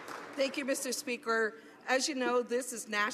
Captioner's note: applause